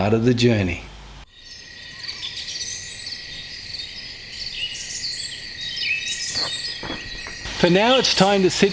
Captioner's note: nature Sounds and Birds Chirping